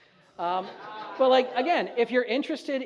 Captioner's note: audience laughs